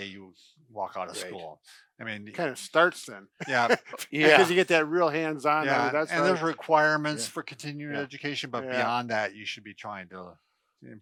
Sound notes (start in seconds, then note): 3.4 laughs